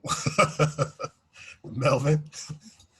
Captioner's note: laughs